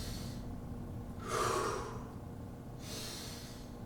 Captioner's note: inhales; exhales; inhales